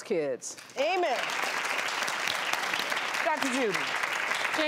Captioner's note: audience applause